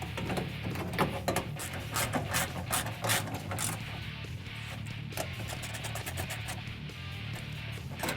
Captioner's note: ratcheting